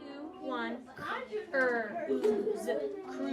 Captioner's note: classroom sounds